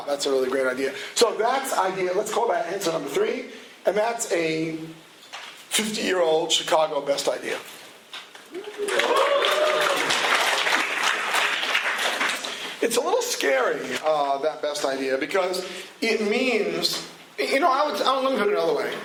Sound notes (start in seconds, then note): 8.5 cheering